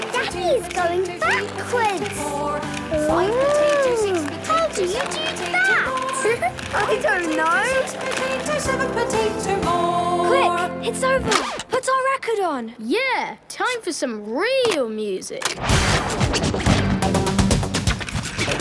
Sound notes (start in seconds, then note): 6.3 laughing; 16.9 heavy dance music